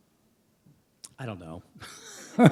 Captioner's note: laughter